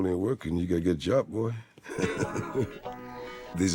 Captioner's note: laughs